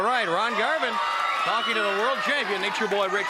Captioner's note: crowd cheering